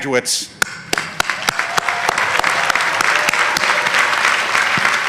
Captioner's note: audience applauding